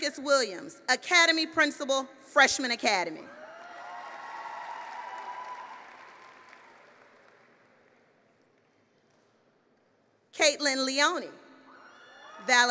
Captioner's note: applause